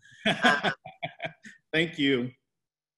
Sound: laughs

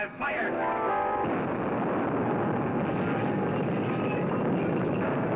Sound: beaker booms; fire crackling; suspenseful music

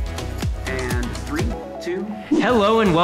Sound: upbeat music; voiceover

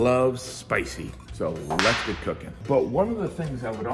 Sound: whip cracking

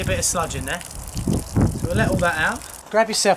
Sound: water pouring

